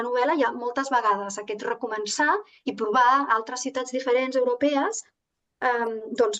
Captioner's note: continues speaking in Catalan